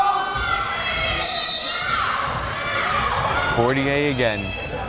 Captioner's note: crowd cheering